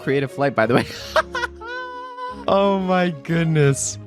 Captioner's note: laughs